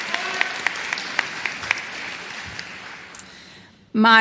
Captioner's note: applause